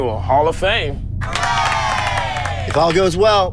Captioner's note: audience applauding